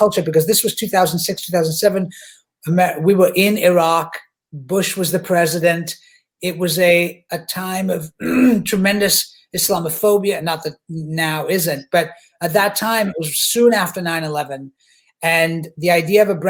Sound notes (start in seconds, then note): 8.2 clearing throat